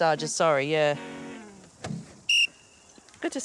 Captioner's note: whistle blows